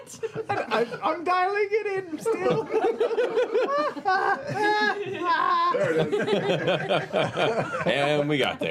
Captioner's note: vocalizes trying to find Nott's voice